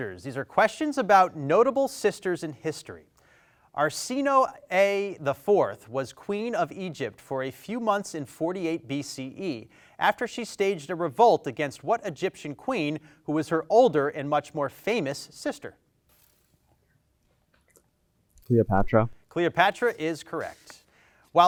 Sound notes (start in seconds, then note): 16.2 team whispers